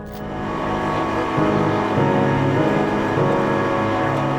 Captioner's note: engine revving; suspenseful music